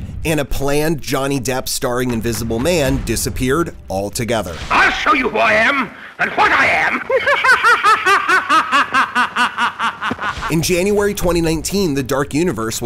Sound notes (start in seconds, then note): 6.0 laughs